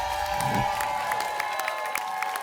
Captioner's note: applause and cheering; whoosh